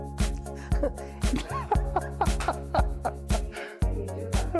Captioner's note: doctors laughing